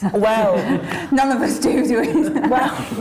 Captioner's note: laughing